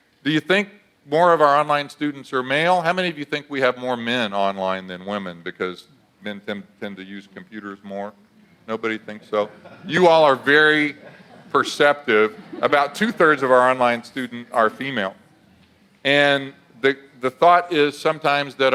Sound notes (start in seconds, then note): 9.2 audience laughs